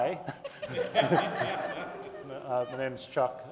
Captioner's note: audience laughing